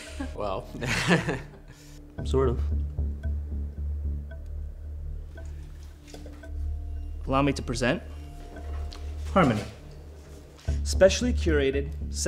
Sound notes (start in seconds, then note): 1.4 laughing